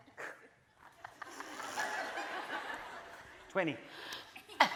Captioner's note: laughing